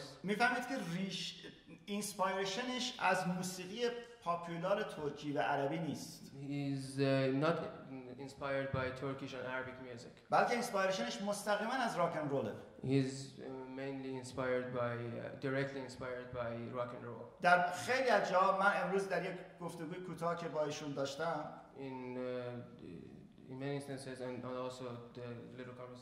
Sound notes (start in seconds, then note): 0.2 speaking in farsi; 10.7 speaking in farsi; 17.1 speaking in farsi